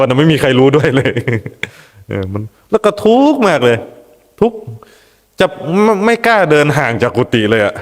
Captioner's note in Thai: เสียงหัวเราะ